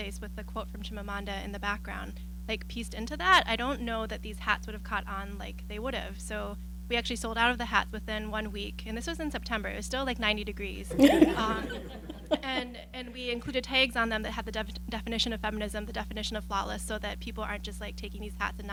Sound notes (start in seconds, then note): 10.9 laughing